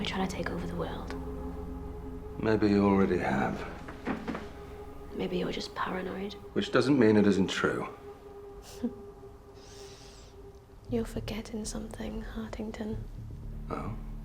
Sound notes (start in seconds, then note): 9.5 Jana scoffs